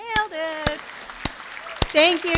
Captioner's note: applause